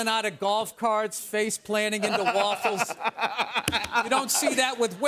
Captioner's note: laughter